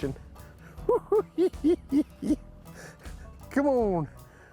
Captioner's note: laughing